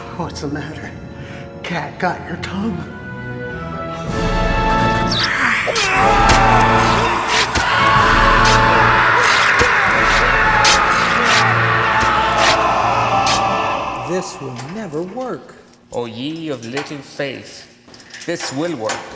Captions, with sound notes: What's the matter, cat got your tongue? (tense music) (lights buzzing) (vampires hissing) (man screaming) (blows thudding) - This will never work. - O ye of little faith. This will work.